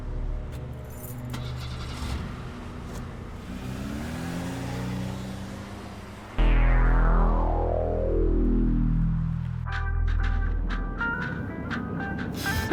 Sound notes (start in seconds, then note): 1.3 car starting; 6.4 eerie music